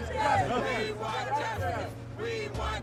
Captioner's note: crowd